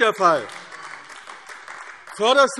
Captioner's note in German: Beifall AfD